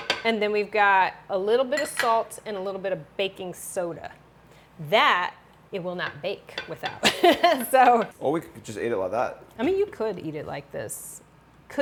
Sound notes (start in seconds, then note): 7.0 chuckles